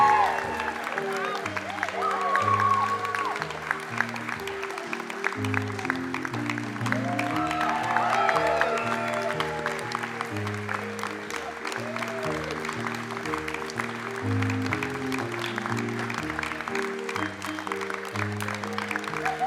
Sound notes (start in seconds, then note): 7.7 applause; 7.7 cheering